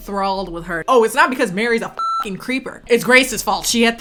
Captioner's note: beep